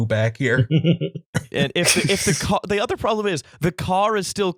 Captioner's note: laughter